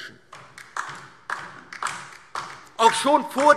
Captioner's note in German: Beifall DIE LINKE